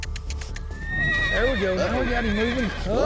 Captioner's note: kissing sound; horse neighs